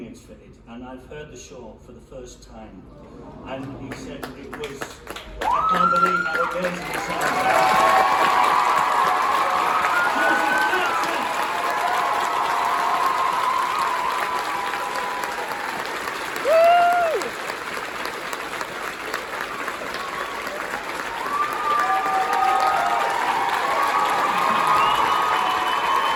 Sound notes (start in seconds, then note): 5.4 emotional audience reactions; 12.8 long applause